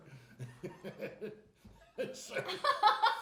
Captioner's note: laughing